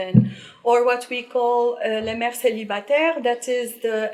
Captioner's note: speaking in foreign language